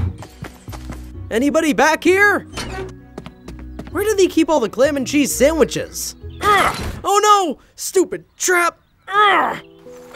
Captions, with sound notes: Anybody back here? (door creaks) Where do they keep all the clem and cheese sandwiches? (groans) Oh no, stupid trap. (groaning) In pain, must eat frozen fishsticks